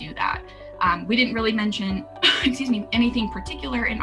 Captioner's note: coughing